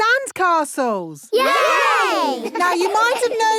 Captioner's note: laughing